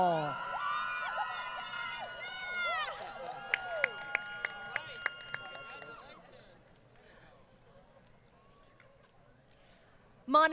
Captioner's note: crowd Cheering